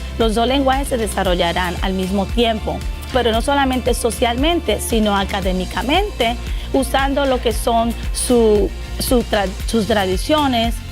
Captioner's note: speaking Spanish